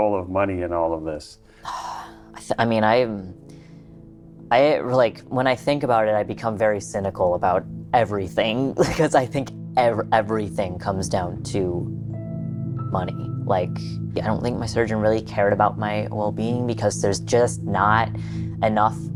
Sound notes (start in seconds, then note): 1.4 sighs